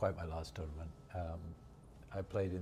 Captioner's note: none